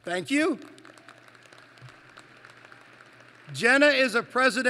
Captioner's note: applause